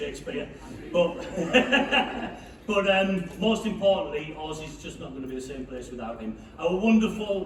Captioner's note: laughing to self